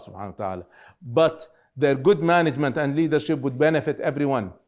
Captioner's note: speaking Arabic